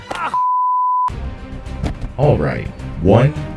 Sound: suspenseful music; beeping; yelling

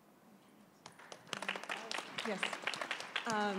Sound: applause

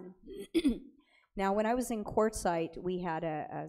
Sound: clears throat

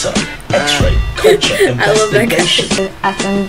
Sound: laughs

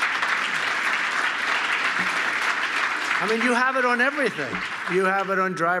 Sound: applause

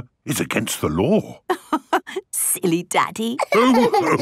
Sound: laughing

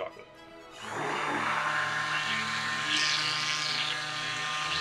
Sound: blender whirring

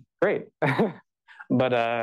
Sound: laughs

